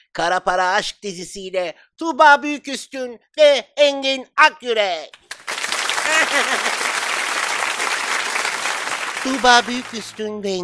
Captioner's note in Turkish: Alkış Alkış Alkış